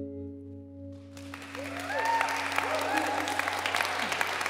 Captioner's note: applause